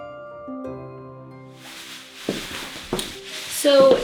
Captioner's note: rustle of taffeta skirts